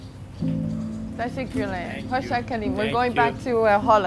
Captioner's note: speaks in foreign language